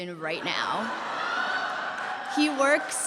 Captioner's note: laughter